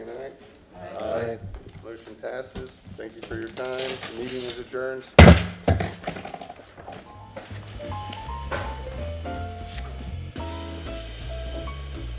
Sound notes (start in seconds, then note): 8.4 sounding gavel